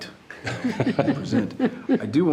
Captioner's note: chuckling